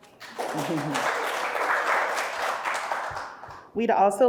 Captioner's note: audience applauding